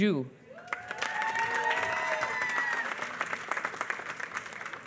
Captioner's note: applause